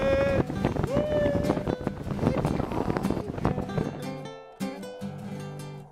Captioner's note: sick boat noises